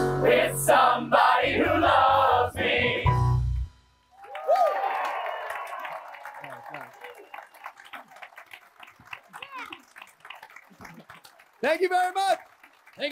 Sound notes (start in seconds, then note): 4.1 attendees applauding